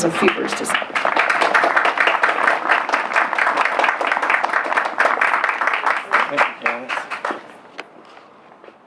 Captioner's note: applause